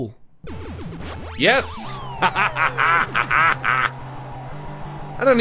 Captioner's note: laughs evilly